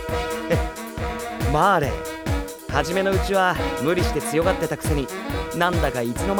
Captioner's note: chuckles